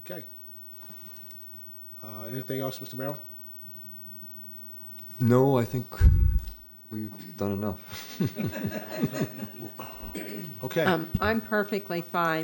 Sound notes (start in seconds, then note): 7.9 laughter